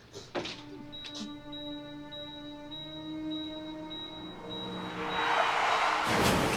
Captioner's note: monitor beeping rapidly; crashing; tires squealing